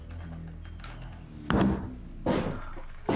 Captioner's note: pistol thuds; footsteps thudding